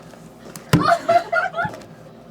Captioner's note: slams fist on table